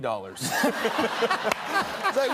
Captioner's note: laughter